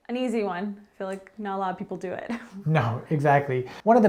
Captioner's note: chuckles